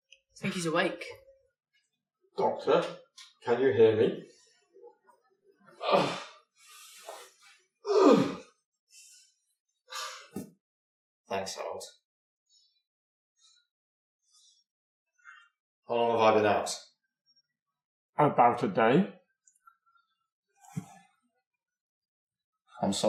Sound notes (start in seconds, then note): 5.6 groaning and grunting